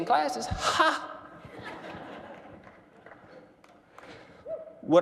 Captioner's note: laughter